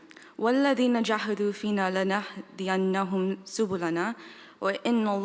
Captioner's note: speaking in foreign language